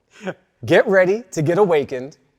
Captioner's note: guests laughing